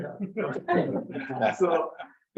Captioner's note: members laugh